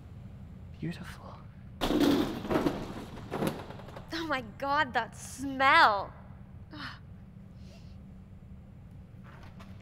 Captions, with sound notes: Beautiful. [DOOR SCRAPES] Oh my God! That smell.